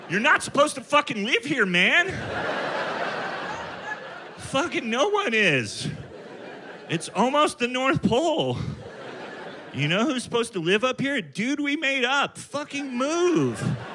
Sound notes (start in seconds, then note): 2.3 audience laughing